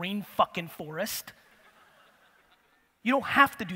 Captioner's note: audience laughter